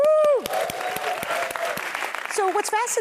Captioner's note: applause